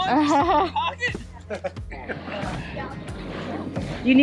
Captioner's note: laughing